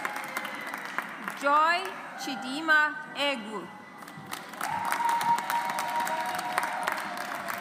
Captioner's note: audience applauds